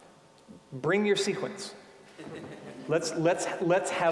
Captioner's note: audience laughing